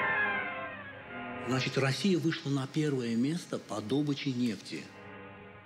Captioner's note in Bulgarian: руски